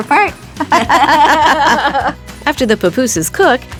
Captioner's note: laughter